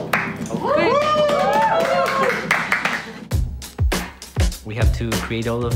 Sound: cheering & applause; claps

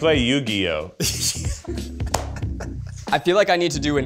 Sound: Eugene laughs

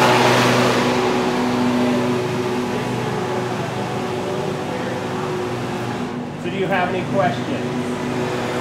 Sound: deafening lawn care noises

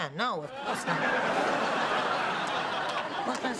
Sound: laughter

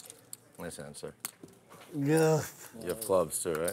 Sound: voiceover

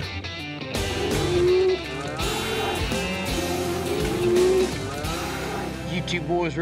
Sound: mooing

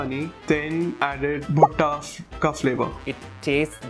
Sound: speaks foreign language

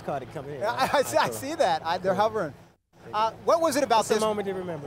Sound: laughing

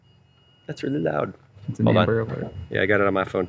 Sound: alarm rings; man mumbles

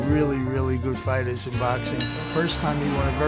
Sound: bell dings

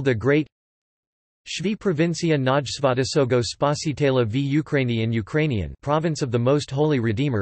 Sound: in Ukrainian

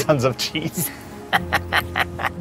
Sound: laughs

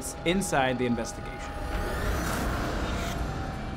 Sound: haunting sounds

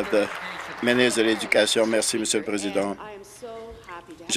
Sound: applause

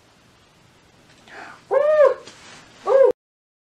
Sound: makes unintentional excited monkey sound

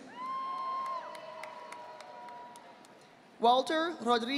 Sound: audience applauding

